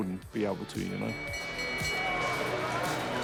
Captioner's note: bell rings